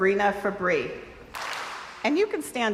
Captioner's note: crowd applauds